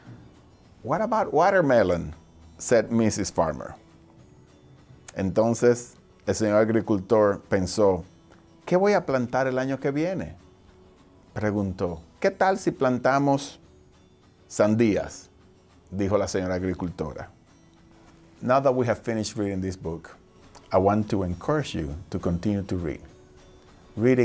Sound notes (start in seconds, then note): 5.2 speaking foreign language